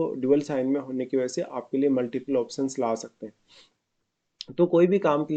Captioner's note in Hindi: नाक से की जाने वाली आवाज़